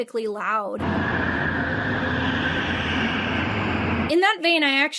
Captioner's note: go-karts screeching